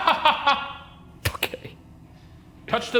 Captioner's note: chuckles